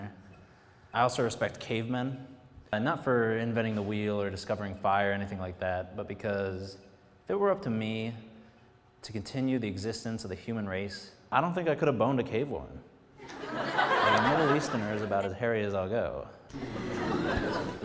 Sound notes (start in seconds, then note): 13.2 some laughs